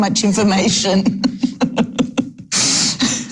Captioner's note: laughs